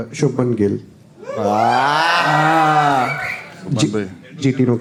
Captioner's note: crowd applauding